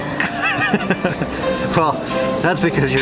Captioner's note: laughing